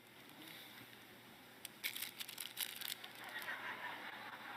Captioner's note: plastic rustling noise; laughter